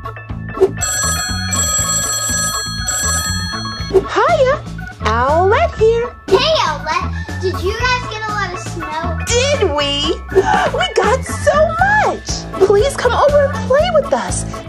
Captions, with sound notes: (telephone ringing) - Hiya, Owlette here. - Hey, Owlette, did you guys get a lot of snow? - Did we? We got so much! Please come over and play with us.